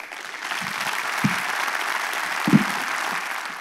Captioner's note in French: Applaudissements